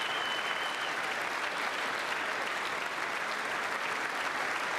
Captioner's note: applause